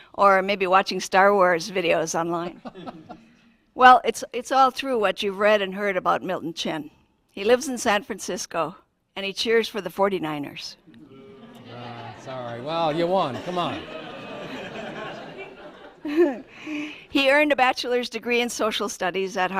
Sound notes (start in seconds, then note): 11.2 booing; 14.3 laughter